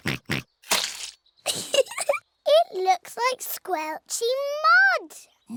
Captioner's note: oinks; giggles